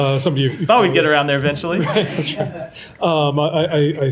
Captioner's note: laughter